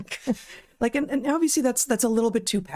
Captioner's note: both Laughing